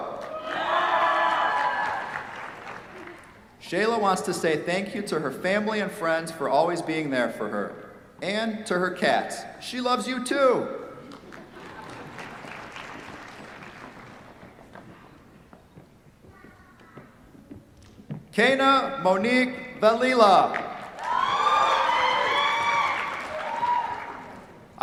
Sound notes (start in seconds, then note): 0.0 cheers, applause; 11.1 applause; 11.2 laughter; 20.8 cheers, applause